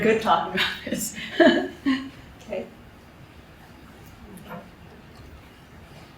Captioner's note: chuckles